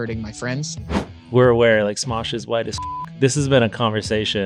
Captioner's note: beep